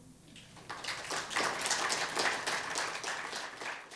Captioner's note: audience applauds